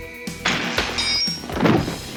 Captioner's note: zapping